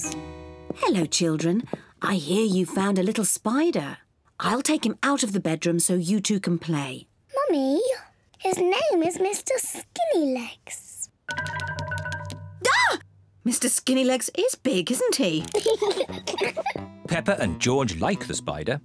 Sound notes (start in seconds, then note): 12.2 screams; 15.5 peppa pig and george laugh